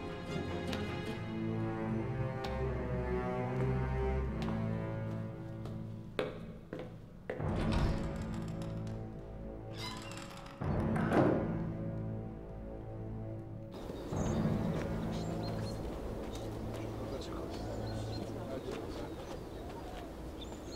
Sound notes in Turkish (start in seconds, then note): 7.1 Kapı açılma sesi; 7.4 Kapı gıcırtısı sesi; 9.6 Kapı kapanma sesi; 13.7 Kuş cıvıltısı sesi